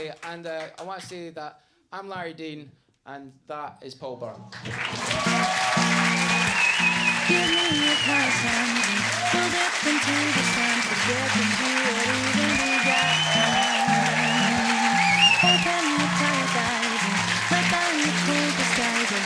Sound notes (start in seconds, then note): 4.7 audience clapping and cheering; 5.7 bright music